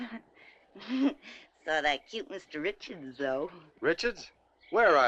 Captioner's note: giggles